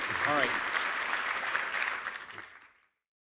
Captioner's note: applause